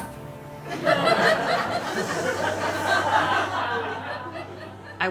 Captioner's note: audience laughing